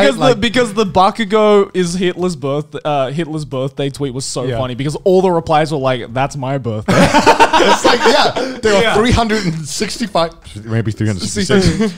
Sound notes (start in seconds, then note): 6.8 men laughing